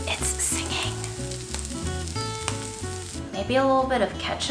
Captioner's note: whispers